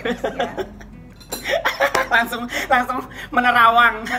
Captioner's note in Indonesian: Dena laughs